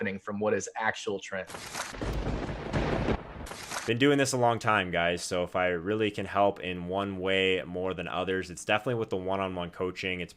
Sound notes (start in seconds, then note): 1.9 thunder cracks